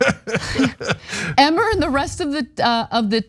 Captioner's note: laugh